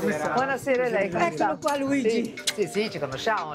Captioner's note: speaks in Italian